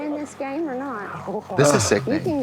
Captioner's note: players laughing